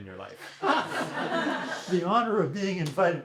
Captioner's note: laughter